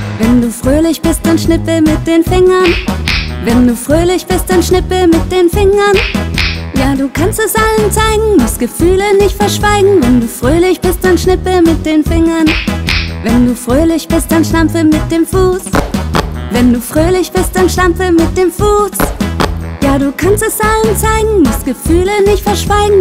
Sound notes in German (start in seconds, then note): 19.0 stampf, stampf